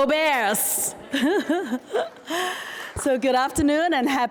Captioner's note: laughs; audience applauding